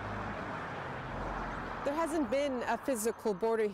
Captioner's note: a car drives